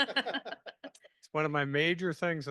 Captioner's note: laughing